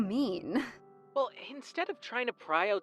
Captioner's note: phone vo